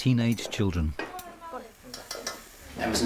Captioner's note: pan sizzling; people chattering; cutlery clacking